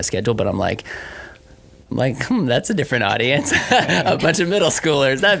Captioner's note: laughs